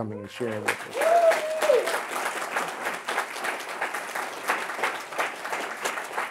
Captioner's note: audience cheering and applauding